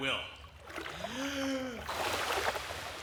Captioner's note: inhales Deeply